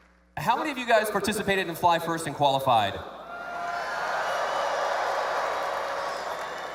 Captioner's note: cheers